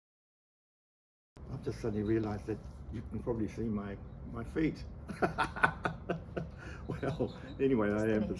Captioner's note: laughter